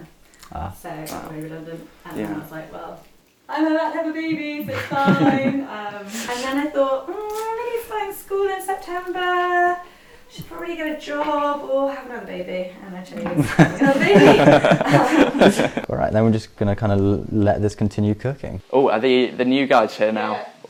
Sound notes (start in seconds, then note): 13.1 laughing